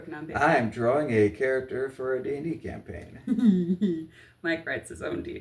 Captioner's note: dorky giggling